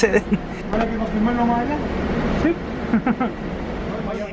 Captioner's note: laughs